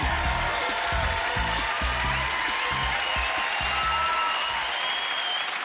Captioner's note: crowd cheering